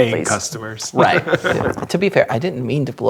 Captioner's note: laughing